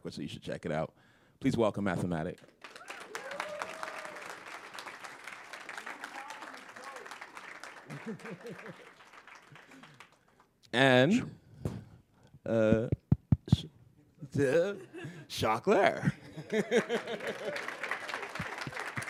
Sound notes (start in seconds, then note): 4.5 applause; 11.7 laughter; 18.9 laughter